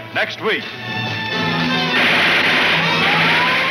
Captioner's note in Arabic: البنادق تطلق النار بشكل عدواني